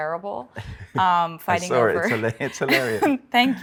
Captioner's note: laughs